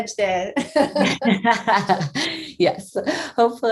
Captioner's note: both laughing